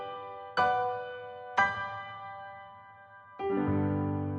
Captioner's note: none